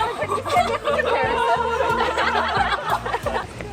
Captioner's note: crowd giggling